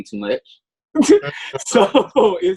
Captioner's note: laughs